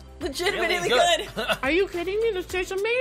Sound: chuckles

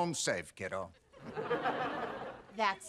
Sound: audience laughing

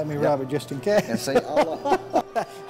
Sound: laughter

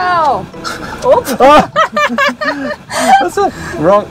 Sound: both laughing

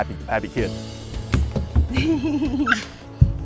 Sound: chuckling; laughs

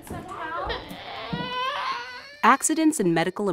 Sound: child crying

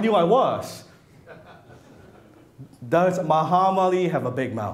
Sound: audience laughs

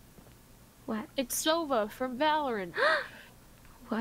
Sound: gasp

